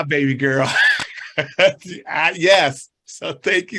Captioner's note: chuckles